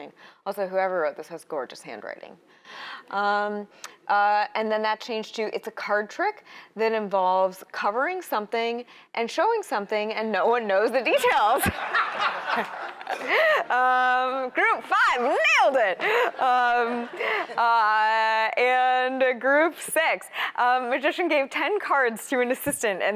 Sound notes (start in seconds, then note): 11.4 laughter